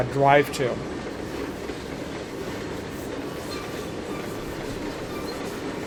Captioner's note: train whistle